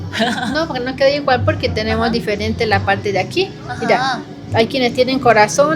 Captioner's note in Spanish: carraspeo